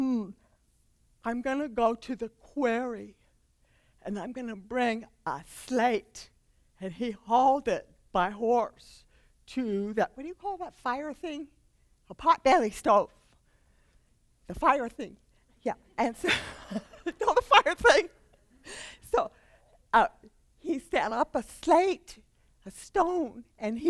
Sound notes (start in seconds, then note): 16.2 laughter